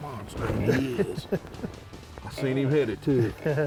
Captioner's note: laughing